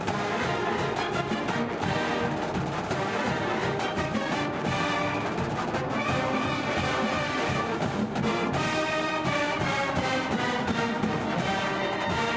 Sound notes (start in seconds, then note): none